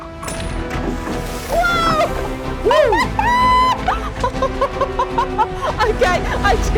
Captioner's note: laughs